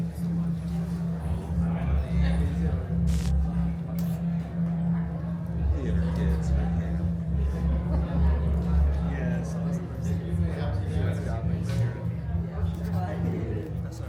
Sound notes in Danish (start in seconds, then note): 3.0 hvid støj bruser; 10.1 publikumsmedlem taler svagt